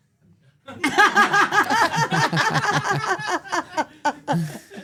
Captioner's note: everyone laughs